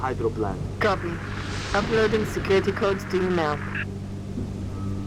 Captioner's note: radio